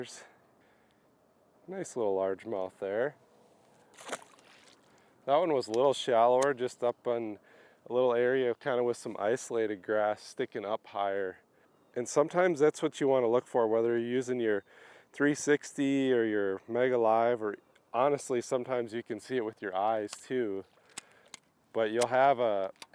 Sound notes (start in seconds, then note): 3.9 water splashes